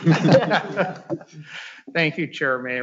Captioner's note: all laughing